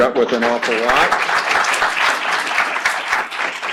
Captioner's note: applause